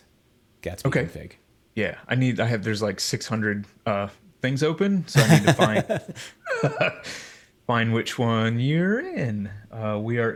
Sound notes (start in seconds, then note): 5.1 chuckles; 5.1 laughs